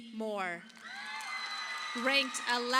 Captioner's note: audience applauding